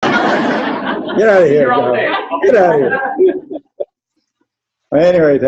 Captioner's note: laughter